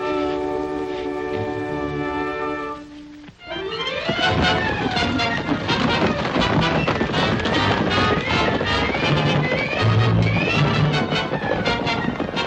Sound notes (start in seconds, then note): 3.5 dramatic music; 3.5 hooves clomping